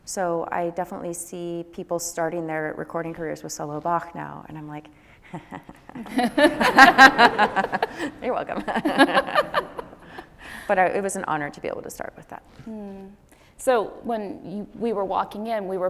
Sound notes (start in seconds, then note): 5.4 laughs